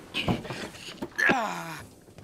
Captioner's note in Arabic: آهات